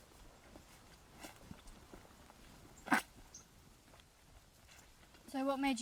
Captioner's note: birds chirping